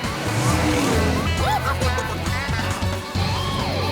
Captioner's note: clucking